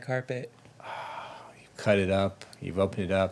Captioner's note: sighs